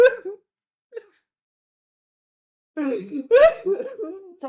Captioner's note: crying